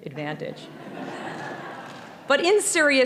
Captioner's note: audience laughing